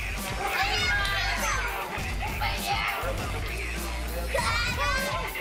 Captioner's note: children chattering